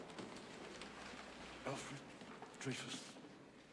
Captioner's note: whispers